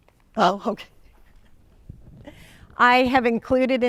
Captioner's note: laughs